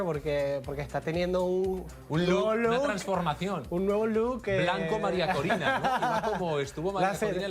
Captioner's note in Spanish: risas